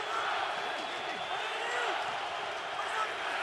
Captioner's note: crowd cheering